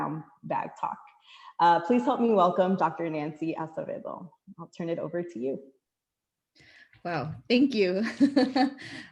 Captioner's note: laughter